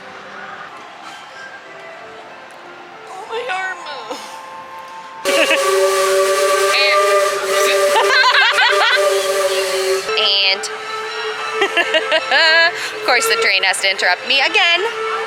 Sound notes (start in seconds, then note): 5.2 laughter; 5.2 train Whistle; 11.0 train whistle; 11.6 laughter